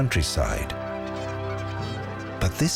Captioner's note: birds squawking